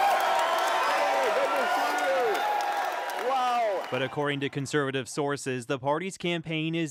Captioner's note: cheers and Applause